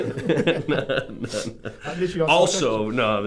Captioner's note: laughing